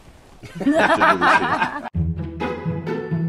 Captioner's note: Selena Steve and Martin laughing; uplifting music